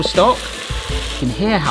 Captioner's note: stock sizzling